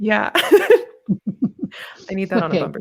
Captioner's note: laughs